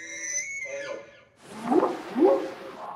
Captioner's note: squealing; whooping sound